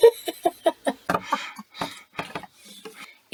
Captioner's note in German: Gelächter